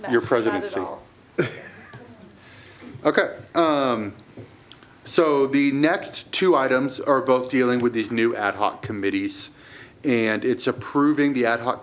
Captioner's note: laughter